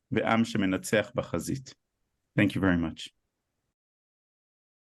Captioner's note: speaking Hebrew